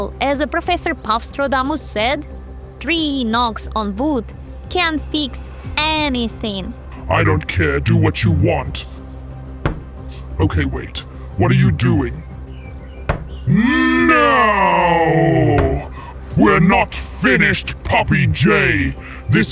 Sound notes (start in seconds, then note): 9.6 knock 1; 13.0 knock 2